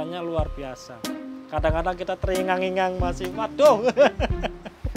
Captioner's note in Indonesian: tertawa